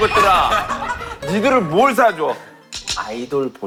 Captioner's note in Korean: 꺄르륵